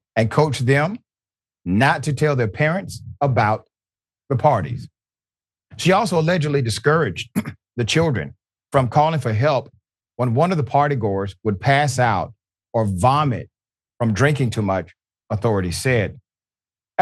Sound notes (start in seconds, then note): 7.2 cough